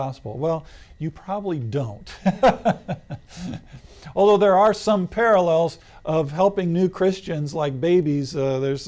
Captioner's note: laughs